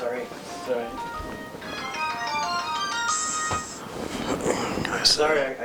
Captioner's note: phone rings louder